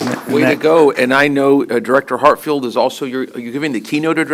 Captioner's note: applause